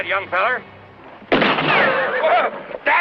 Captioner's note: gunshot; yells